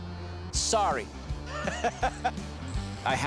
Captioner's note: laughs